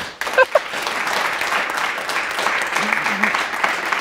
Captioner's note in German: Applaus